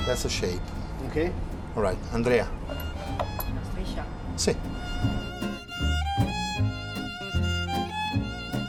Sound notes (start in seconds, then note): 3.9 speaking Italian; 5.7 playful violin music